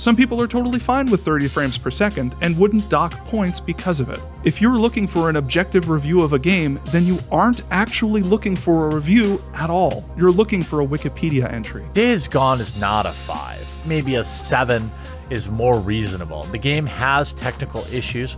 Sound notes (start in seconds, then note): none